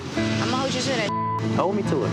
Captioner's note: beep